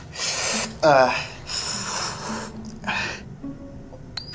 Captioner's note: Miles groans